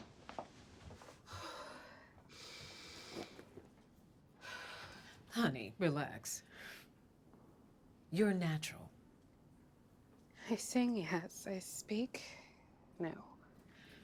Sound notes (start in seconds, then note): 1.9 sighs; 4.4 exhales deeply